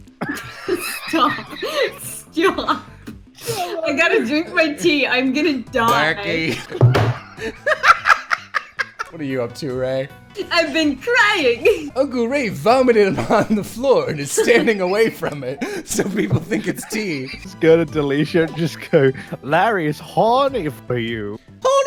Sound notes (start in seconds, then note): 0.2 wheezing; 6.4 laughter; 6.8 slam